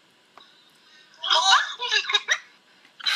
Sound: screaming and chuckling

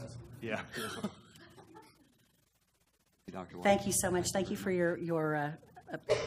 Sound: laugh

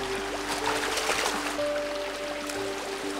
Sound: indistinct chatter; water splashing; light instrumental music

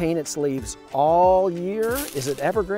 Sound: leaves crunching

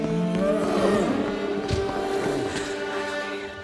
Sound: vampire screams

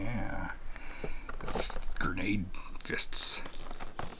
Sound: none

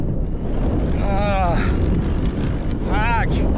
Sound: grunting

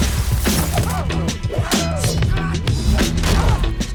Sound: grunting, screaming

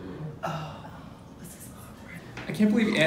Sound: whispers

